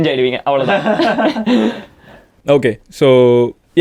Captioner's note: group laughs